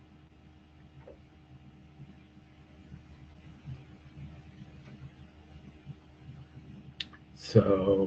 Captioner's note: pause